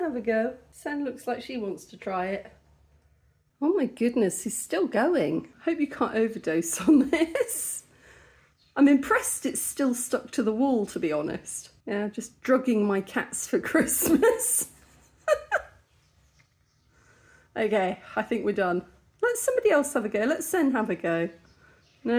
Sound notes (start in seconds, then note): 13.8 laughing